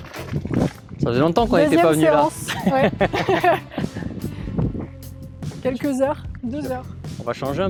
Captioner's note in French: rires